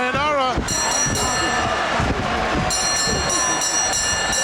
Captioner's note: bell ringing